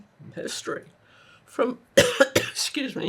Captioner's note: coughing